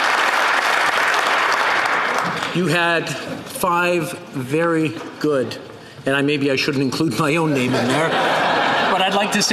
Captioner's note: applause